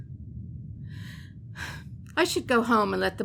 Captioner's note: Morgan sighs